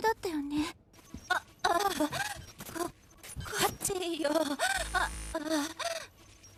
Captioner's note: voice glitching, stuttering continuously